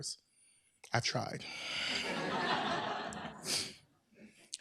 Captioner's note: laughter